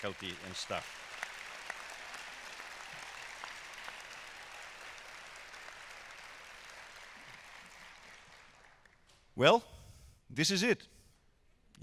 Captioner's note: cheers and applause